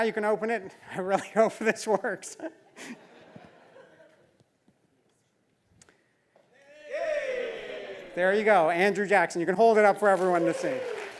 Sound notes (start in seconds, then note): 3.3 laugh